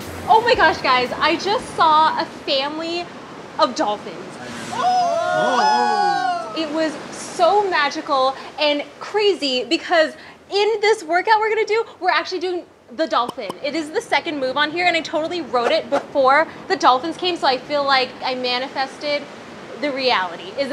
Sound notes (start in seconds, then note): 4.7 screaming